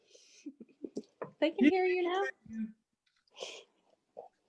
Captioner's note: laughing